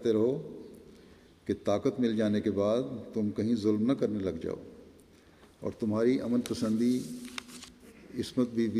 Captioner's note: in Persian